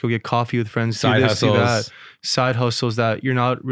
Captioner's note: faintly speaking